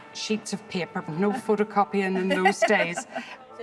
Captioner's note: laughs